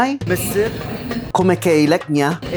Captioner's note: Arabic